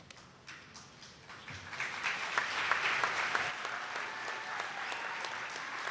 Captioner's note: attendees clapping